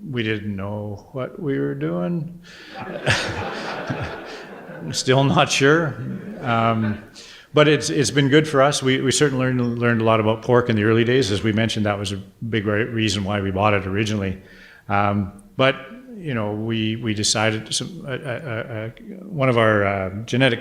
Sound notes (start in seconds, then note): 2.7 audience laughter